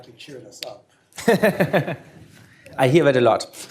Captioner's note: laughter